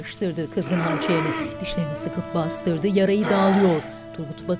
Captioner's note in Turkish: Bağırma sesi